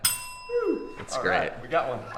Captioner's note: ding